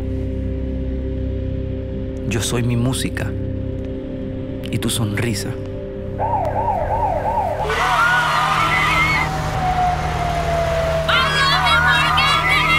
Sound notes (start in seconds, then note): 6.2 police Sirens; 7.2 crowd Screaming